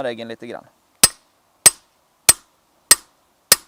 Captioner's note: peening